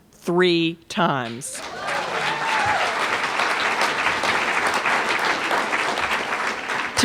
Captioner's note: applause